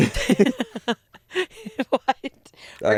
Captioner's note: laughing